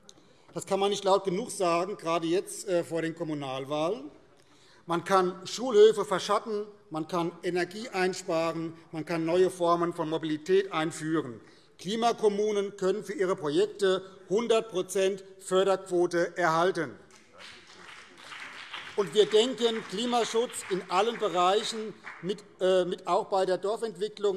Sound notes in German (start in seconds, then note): 17.0 Beifall BÜNDNIS 90/DIE GRÜNEN und vereinzelt CDU